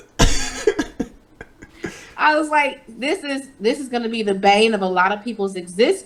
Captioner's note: laughs